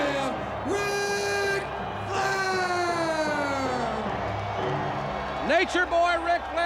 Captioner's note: crowd cheers